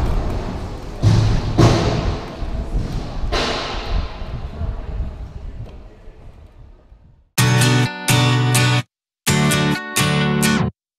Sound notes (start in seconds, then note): 0.0 loud, echoing, ramp banging noises